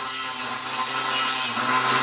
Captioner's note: droning